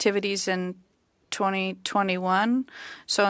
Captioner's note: speaking French